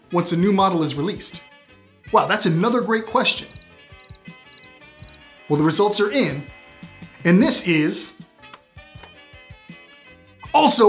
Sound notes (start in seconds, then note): 3.9 chirping